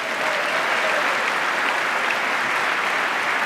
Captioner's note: applause